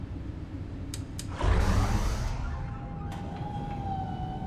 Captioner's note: lights click on; hydraulic whirring